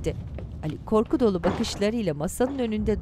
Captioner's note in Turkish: Kapı kapanma sesi